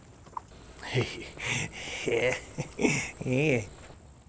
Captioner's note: chuckles